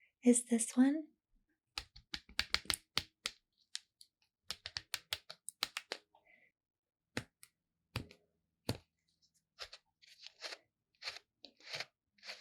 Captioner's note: plucking rubber sounds